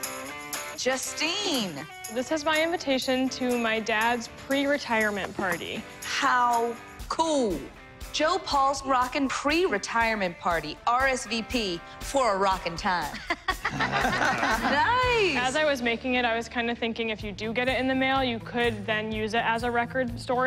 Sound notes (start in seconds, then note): 13.1 laughter